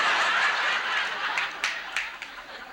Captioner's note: audience laughs